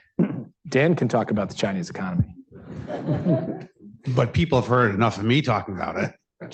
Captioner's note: laughter